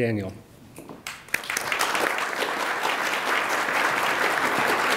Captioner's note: attendees applaud